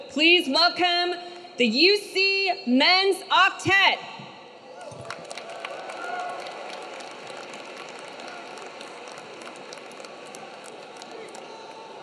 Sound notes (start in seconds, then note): 4.7 audience cheering; 4.8 audience clapping